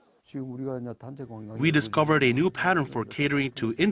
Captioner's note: Korean